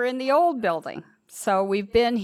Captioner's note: none